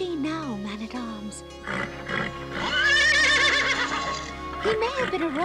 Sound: whinnying in agreement

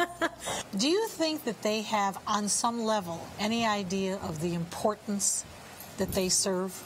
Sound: laughing

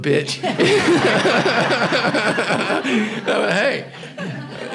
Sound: everybody laughing

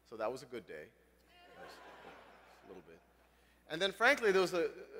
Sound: laugh

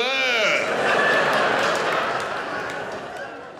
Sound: audience laughs

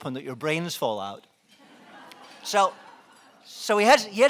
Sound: laughing

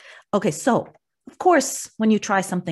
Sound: none

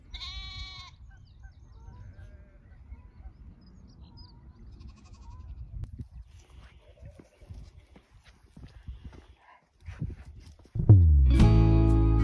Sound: sheep bleating

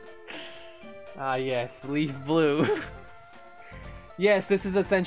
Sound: laughing

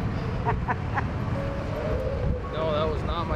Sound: driver laughs

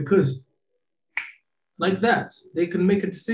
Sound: clicks fingers

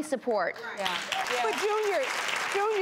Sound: audience applauds

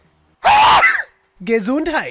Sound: sneezes

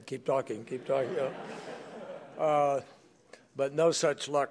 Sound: laughter

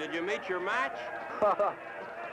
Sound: Harold chuckling

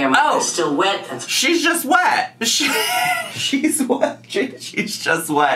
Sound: laughs

